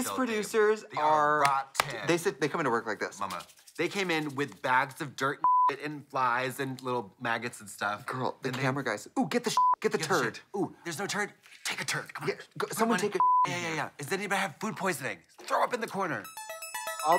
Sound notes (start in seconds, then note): 5.4 beep; 9.5 beep; 13.1 beep